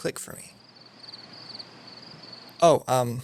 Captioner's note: crickets